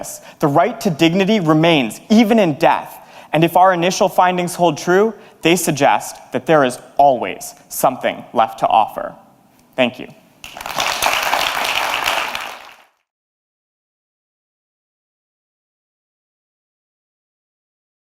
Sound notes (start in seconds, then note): 10.4 applause